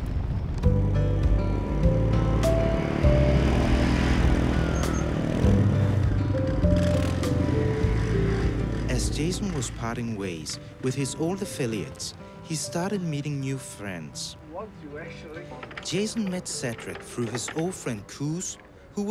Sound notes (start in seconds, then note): 0.6 kindly music; 0.8 engine buzzes